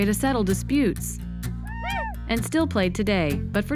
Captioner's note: hollering